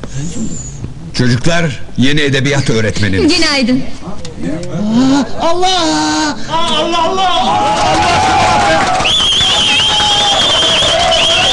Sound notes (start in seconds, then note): 4.5 crowd Cheers; 7.6 clapping and Whistles